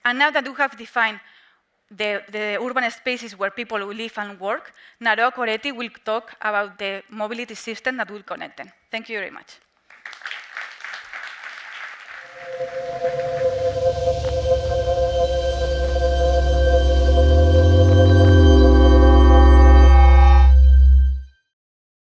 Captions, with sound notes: And now that you have defined the urban spaces where people will live and work, Naroa Coretti will talk about the mobility system that will connect them. Thank you very much. (audience clapping) (ethereal music) (blob humming)